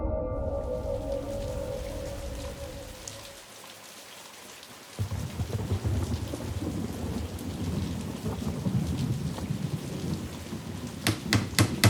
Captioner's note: rain